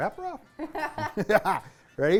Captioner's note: laughter